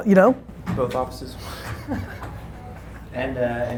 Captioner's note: laughs